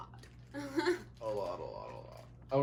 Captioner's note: laughs